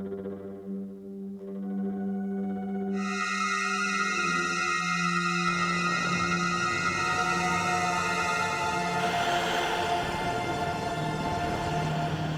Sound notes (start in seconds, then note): 3.1 mysterious horror sounds; 9.1 sound of vacuum cleaner